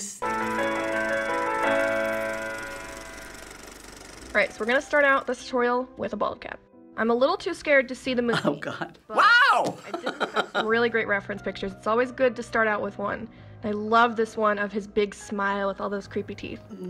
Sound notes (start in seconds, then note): 0.1 ragtime music; 9.7 chuckles